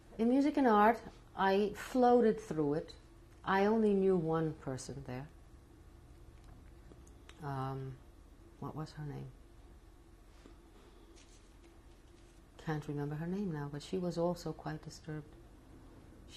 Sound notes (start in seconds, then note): 5.3 pauses for 3 seconds